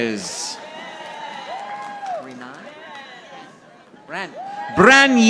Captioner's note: audience applauding